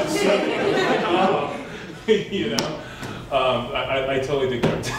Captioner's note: laughter